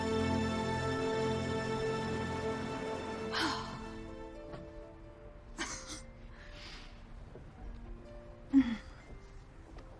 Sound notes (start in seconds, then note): 3.2 sighing; 5.6 giggling